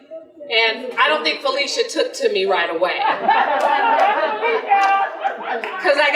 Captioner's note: general laughter